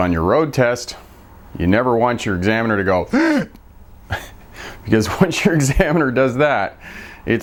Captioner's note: sucking in their breath